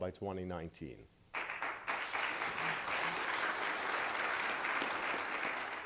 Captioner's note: applause